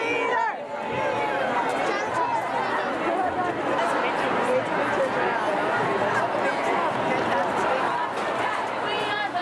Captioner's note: unison chant; background chatter; unison chant